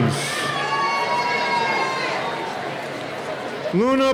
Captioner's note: cheering